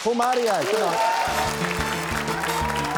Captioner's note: cheering, applause